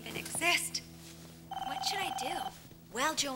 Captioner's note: phone ringing